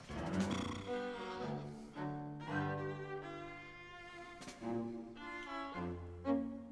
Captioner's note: playful music; James blows raspberry